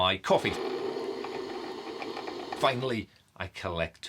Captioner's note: coffee machine whirring